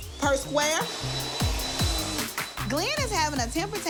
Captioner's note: vacuum